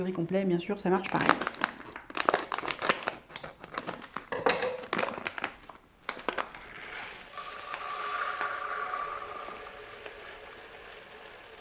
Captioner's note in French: Bruit blender